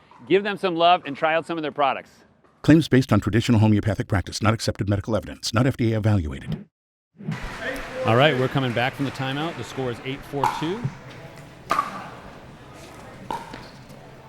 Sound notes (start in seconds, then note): 2.8 voiceover; 10.3 ball clacking